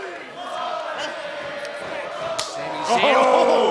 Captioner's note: fans chanting